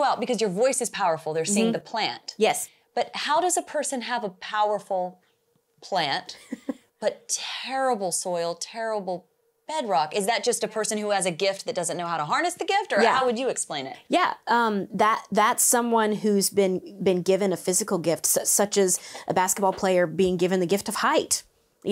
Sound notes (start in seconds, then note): 6.3 laughs